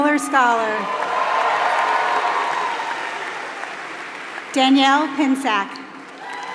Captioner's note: applause